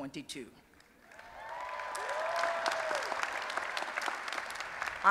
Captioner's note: applause and Cheering